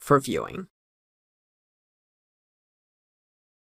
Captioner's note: no audio